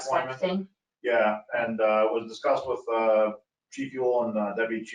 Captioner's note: speaking faintly